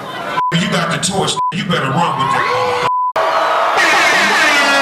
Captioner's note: crowd cheers